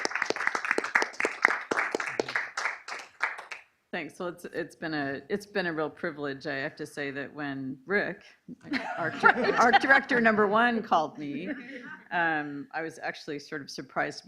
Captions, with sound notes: - Thanks, it's been a real privilege. I have to say that when Rick, (laughing) our director number one, called me, I was actually sort of surprised